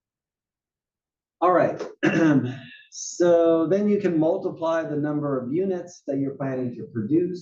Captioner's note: cough